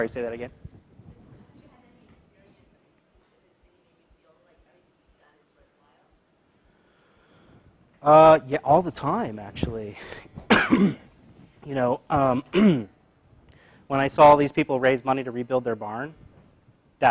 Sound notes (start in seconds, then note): 10.4 cough